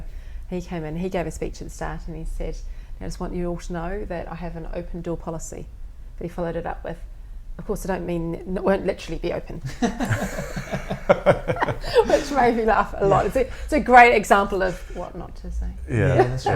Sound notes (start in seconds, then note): 9.6 laughter